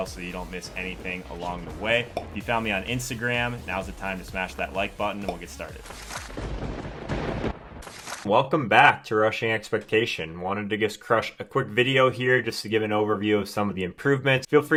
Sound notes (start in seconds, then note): 6.3 thunder cracks